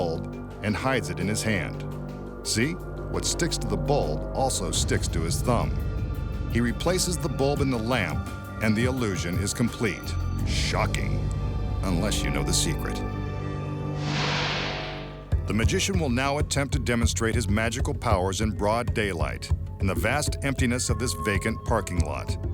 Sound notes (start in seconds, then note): 14.0 light beam swishing